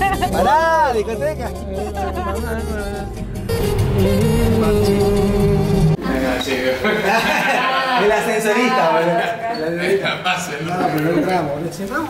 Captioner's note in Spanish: risas